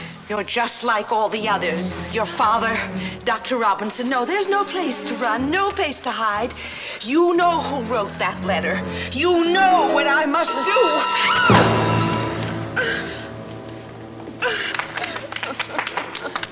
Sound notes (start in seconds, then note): 10.6 screams; 12.8 grunting; 14.4 people applauding